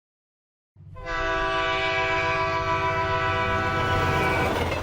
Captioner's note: horn blasts